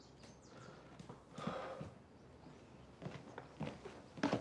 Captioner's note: Cody sighing